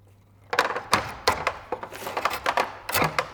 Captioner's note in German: Knarzende Geräusche